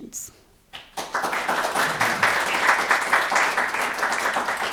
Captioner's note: crowd clapping